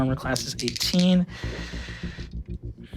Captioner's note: dice clanking; dice rolling